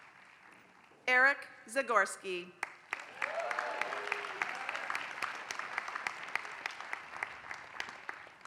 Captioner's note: applause; applause